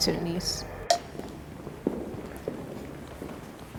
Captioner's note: feet clomping